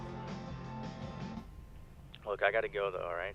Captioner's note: on phone